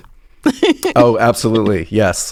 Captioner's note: laughs